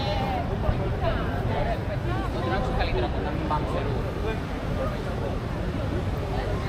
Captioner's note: people chattering